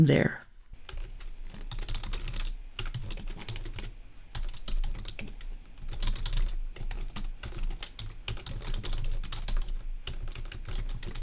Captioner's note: more tippety-tapping of keyboard work